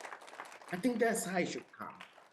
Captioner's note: audience applauding